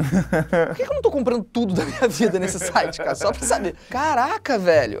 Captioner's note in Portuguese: risadas